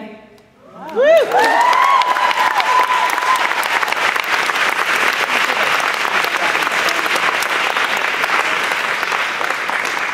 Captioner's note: applause